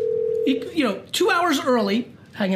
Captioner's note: phone ringing